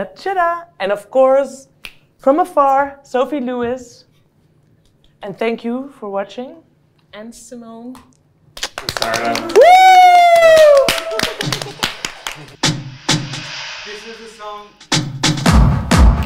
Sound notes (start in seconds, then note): 9.0 cheering; 13.5 upbeat music